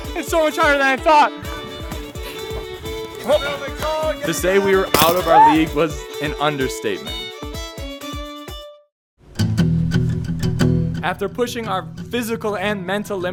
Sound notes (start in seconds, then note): 3.3 shouts directions; 9.4 guitar strumming